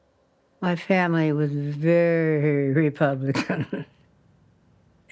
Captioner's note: chuckles